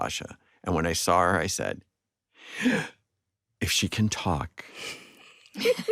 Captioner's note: gasps; others laughing